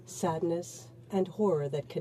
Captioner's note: speaking in french